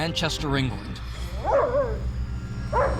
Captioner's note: dog barks